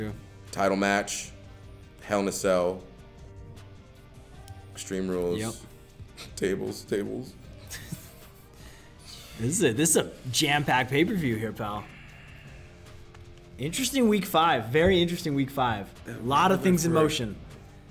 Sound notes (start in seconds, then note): 7.5 laugh